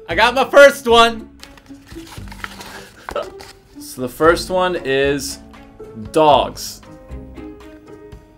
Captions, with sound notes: I got my first one! (Antoni chuckling) So, the first one is dogs.